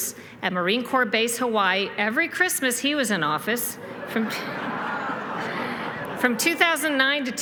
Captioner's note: laughter